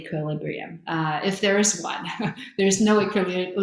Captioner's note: chuckles